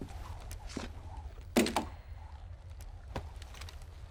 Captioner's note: weapon thuds